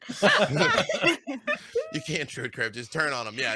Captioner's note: laughing